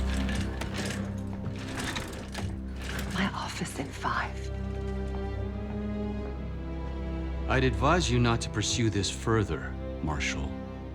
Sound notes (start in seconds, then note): 3.4 whispers to Marshall